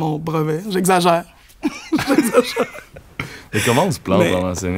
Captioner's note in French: rires